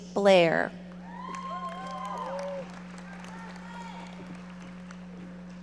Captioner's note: audience members cheering